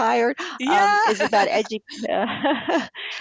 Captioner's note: laughter